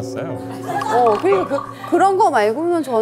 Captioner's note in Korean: ㅋㅋ